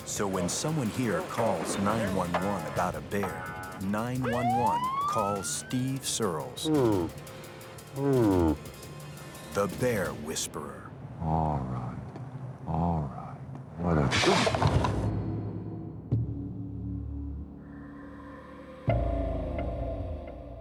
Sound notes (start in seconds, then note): 4.0 siren wailing; 6.6 grunting; 11.2 bear yawning; 15.0 bear growling; 15.0 soft dramatic music